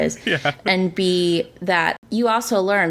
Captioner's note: laughs